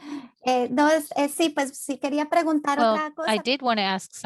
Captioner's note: speaking in Spanish